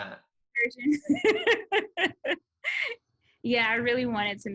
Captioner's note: laughs